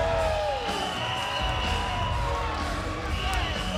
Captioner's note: spectators cheering; hard-hitting rock music